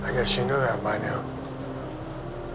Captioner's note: speaks Chinese